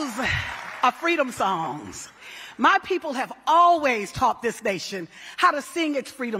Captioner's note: cheering